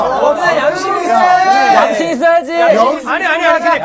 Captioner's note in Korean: 야유